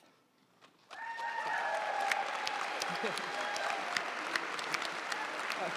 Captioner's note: audience cheering and applauding